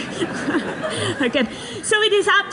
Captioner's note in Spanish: risas